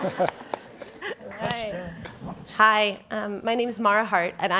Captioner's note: laughing